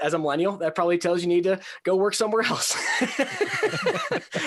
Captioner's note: laughing; laughs